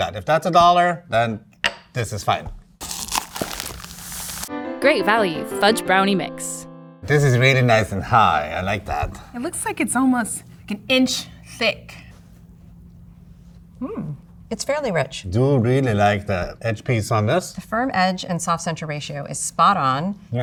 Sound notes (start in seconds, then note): 2.8 cardboard tearing; 2.8 paper crinkling